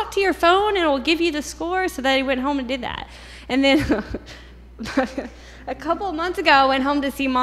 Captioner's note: chuckles